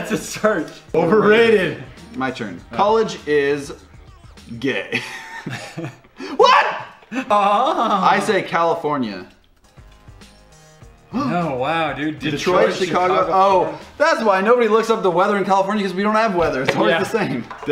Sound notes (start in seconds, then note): 0.0 laughs; 6.1 wheeze